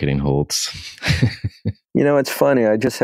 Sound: both laugh

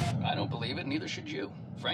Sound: voice Over radio

